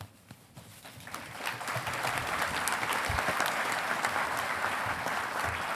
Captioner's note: audience applauding